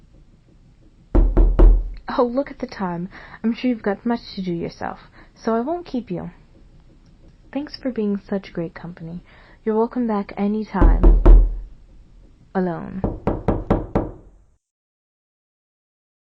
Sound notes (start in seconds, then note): 1.1 knocking; 10.8 knocking continues